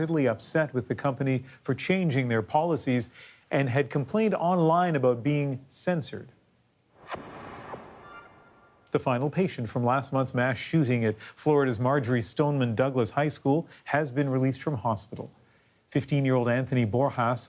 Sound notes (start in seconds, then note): none